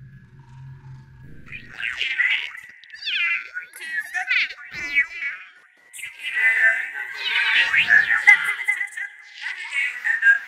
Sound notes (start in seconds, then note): 1.5 garbled electronic voices and cat noises